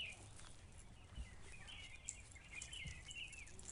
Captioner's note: birds chiring